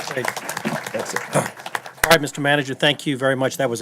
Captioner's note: applause